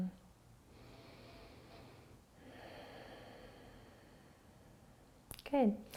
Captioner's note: inhaling and exhaling